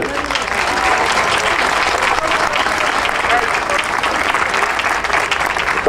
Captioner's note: audience cheering and applauding